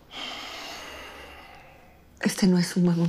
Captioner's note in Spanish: Suspiro